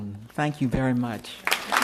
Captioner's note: applause